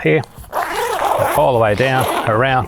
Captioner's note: zipper gliding